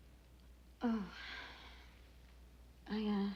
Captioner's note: sighs